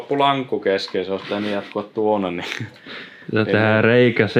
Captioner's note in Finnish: naurahtaa